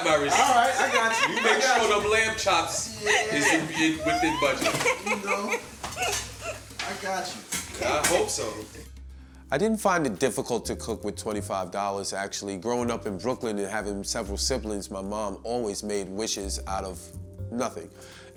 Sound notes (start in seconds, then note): 2.1 Angela laughing